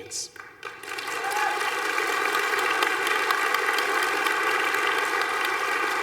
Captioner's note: applause